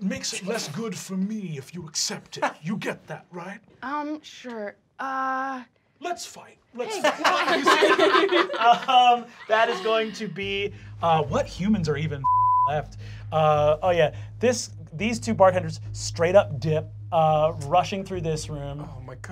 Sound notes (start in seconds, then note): 6.8 laughing; 13.4 tense music